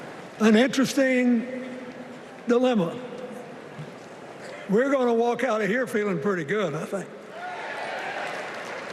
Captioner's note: applause